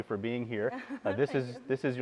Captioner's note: laughing